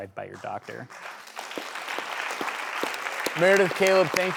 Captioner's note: applause